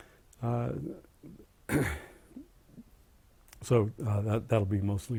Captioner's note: cough